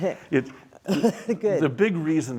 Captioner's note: coughs